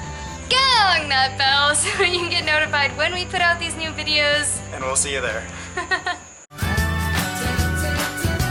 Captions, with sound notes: GONG THAT BELL! So you get notified when we put out these new videos and we'll see you there! [Laughter]